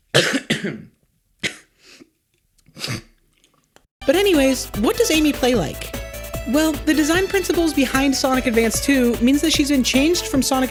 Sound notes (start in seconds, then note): 0.1 cough; 1.5 sniff; 2.7 snort